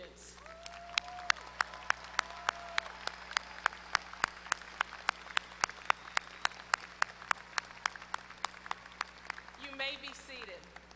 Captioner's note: applause